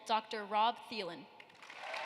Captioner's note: applause